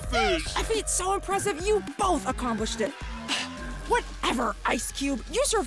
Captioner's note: sigh